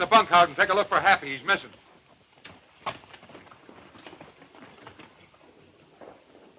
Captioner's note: hoof beats fading away